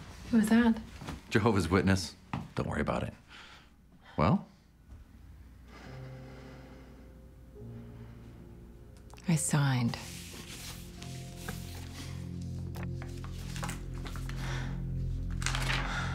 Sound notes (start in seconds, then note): 5.7 sighing